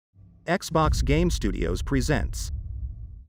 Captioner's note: dramatic sound